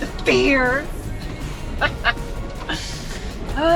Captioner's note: laughs